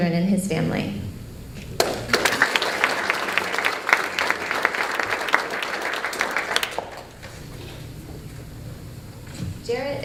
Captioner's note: applause